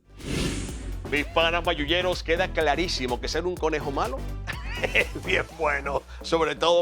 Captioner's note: laugh